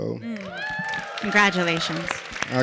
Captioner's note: audience clapping